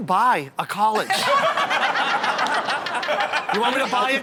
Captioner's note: all laugh